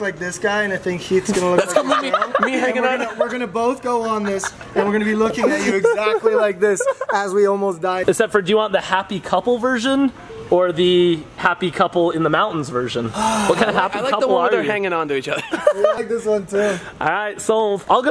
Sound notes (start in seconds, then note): 1.5 laughing